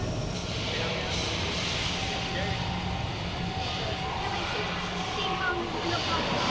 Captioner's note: tram whooshes